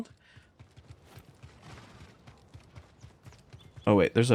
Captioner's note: gunshots